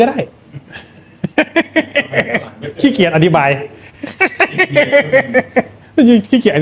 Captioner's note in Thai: เสียงหัวเราะ